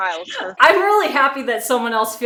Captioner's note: laughs